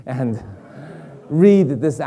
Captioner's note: audience laughing